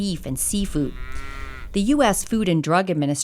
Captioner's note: cow mooing